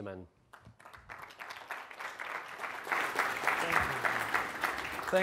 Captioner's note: audience clapping